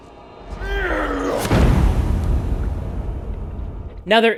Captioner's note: ominous boom